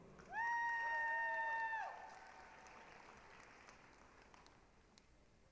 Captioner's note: applause, cheering